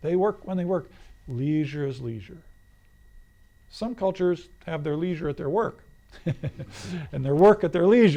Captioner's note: laughs